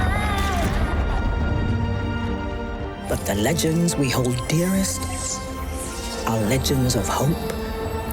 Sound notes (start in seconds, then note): 0.7 yelling in fear